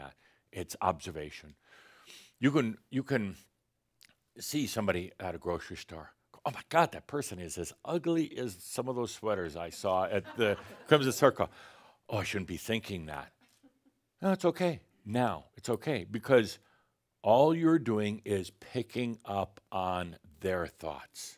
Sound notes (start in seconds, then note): 10.0 some chuckles